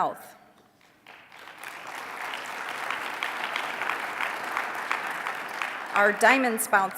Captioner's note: applause